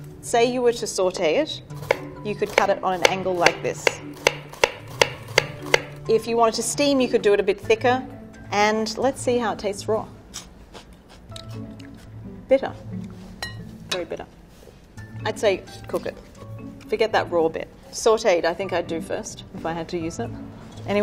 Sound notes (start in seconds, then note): 4.1 knife tapping against wooden board; 10.6 crunchy chewing